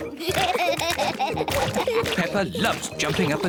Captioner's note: both laughing